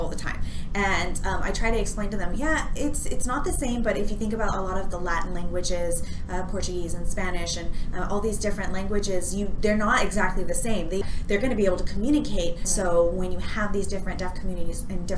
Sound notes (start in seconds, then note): none